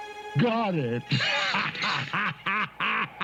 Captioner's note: grinch laughing